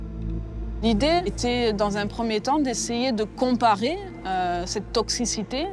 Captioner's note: speaks in foreign language